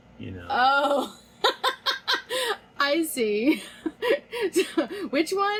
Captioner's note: laughs